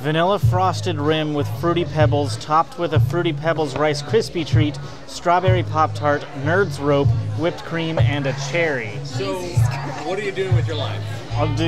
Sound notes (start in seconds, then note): 9.1 laughing